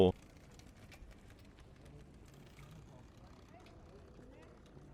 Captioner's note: people chattering